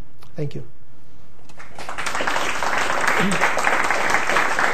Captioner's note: applause